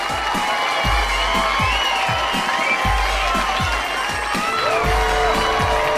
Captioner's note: audience cheering and applauding